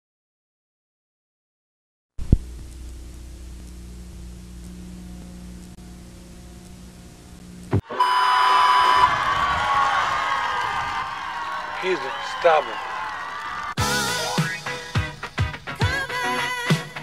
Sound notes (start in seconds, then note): 4.4 static old TV sound; 7.8 cheering/ shouting